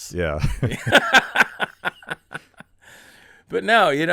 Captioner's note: laughing